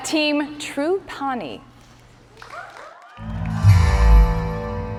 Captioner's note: cheers and applause